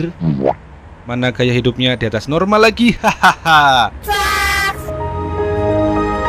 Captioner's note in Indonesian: tertawa